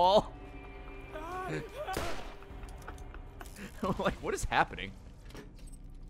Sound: laughs

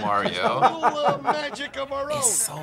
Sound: laughs

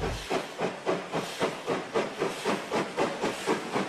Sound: rail squeal

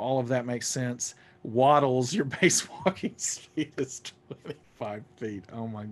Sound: laughing

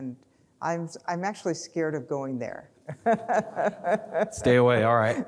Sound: laughs

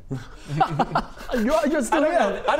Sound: jealous laugh

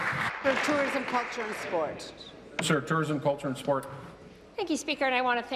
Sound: applause

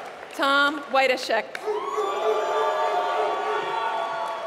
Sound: applause; applause

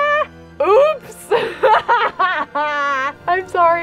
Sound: laughs

